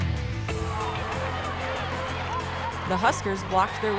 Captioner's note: cheering